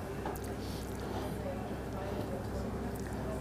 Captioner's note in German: Menschen sprechen im Hintergrund